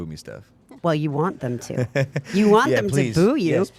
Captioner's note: laughing